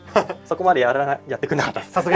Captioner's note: laughs